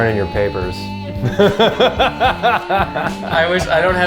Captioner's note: both laughing